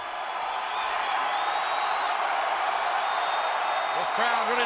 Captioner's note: audience cheering